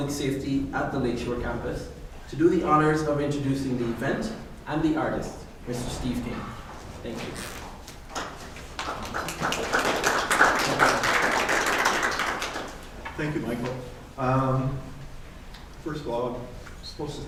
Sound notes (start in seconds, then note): 8.1 applause